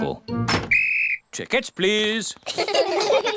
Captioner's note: blows whistle; all laugh